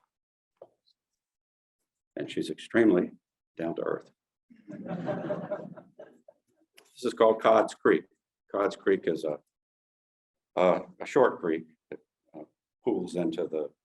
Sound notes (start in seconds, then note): 4.7 audience giggling lightly